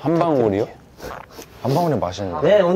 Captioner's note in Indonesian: Pfft